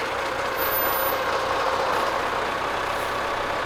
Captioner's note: trolley whirs